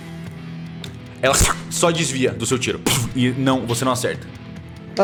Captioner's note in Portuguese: Vush